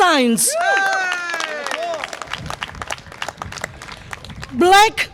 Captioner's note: audience applause and cheer